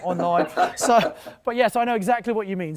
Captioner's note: laughter